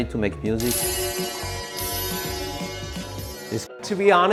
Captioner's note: chimming